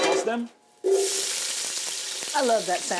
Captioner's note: onions sizzling